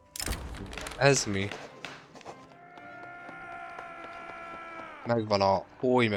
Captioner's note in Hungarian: sikítás